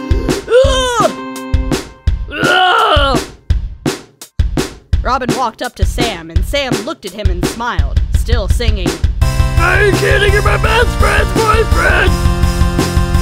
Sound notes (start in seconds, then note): 0.0 inhale; 2.3 rrraaaaagh